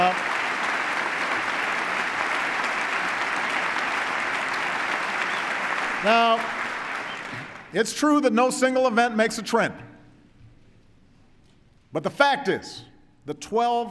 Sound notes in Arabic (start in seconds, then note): 0.0 تصفيق